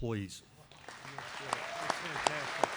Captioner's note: applause